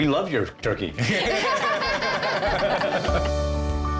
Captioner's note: laughter